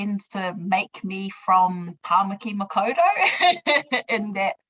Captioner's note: laughs